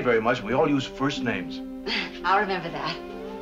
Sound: chuckles

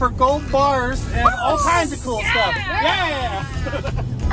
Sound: excited cheers

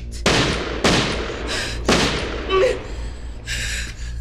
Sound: gunshots

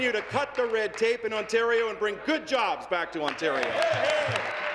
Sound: applause

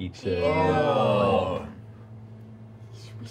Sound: groaning

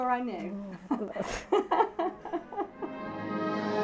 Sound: laughs

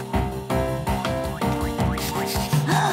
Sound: sniffing; gasping

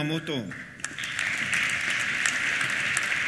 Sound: applause

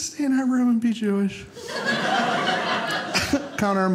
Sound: audience laughing

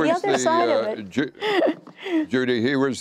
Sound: laughter

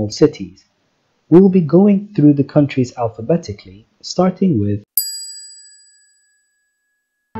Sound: ding

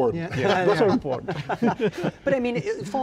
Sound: laughter

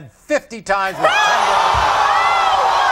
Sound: audience groaning

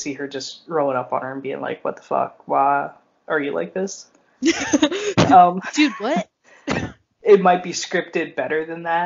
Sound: laughs

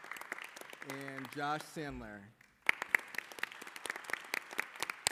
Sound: applause

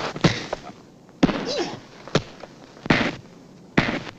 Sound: blows landing

